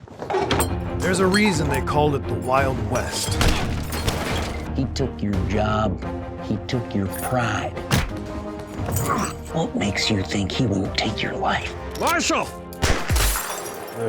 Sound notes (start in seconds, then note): 3.4 gunshot; 7.9 punch; 12.8 gunshot